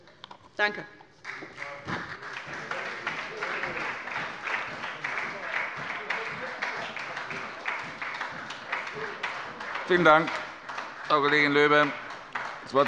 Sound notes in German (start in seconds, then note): 1.2 Beifall bei der SPD